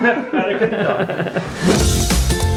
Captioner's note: both laugh; upbeat music